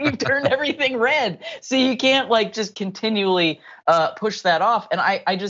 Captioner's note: laugh